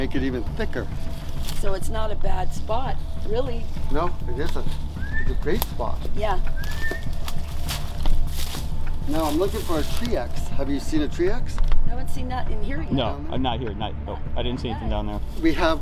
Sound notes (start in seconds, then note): 6.4 whistling; 8.0 rustling leaves